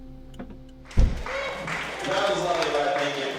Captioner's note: applause